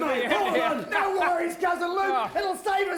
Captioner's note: laugh